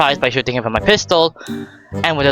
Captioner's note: ^Out of breath as shit